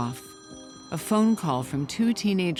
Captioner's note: phone ringing